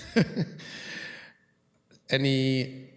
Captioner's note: chuckles